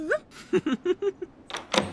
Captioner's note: giggling